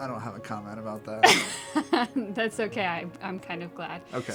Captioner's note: laugh